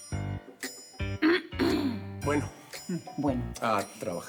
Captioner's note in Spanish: Griselda carraspea